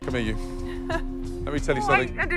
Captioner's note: giggles